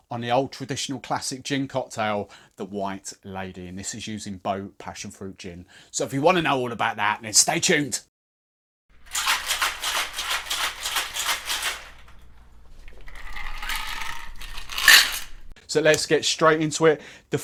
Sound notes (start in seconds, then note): 9.7 shaking, rattling